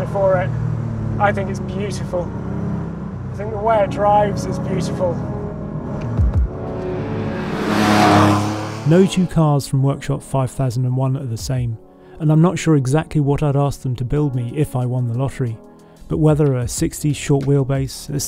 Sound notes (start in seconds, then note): 7.6 engine roars